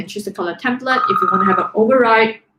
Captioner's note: phone ring